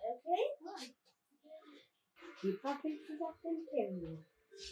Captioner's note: general kiddo chatter